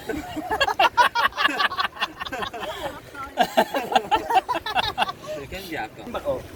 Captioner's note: laughing